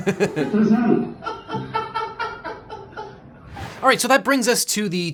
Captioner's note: laughs; laughing